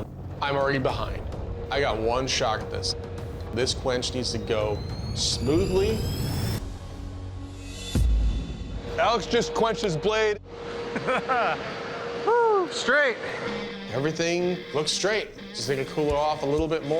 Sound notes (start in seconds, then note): 10.8 laughs